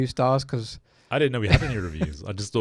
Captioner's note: laughs